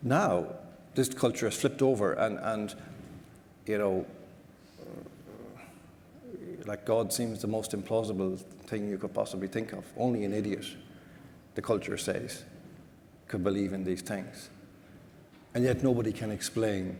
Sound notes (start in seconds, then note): none